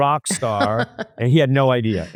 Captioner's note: laughs